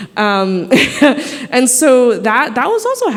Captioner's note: laughing